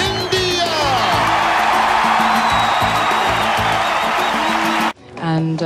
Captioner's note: audience cheering